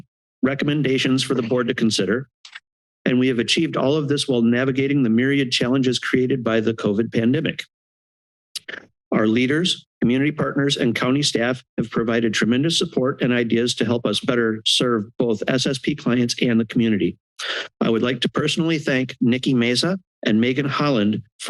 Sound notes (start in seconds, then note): 8.6 tongue sound